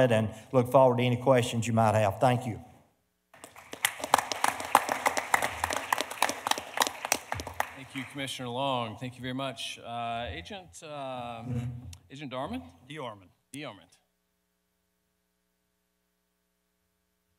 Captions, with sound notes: and look forward to any questions you might have, thank you. (audience applauding) (panelists applauding) - Thank you commissioner Long, thank you very much. Agent Agent DeArmond. - DeArmond. - DeArmond.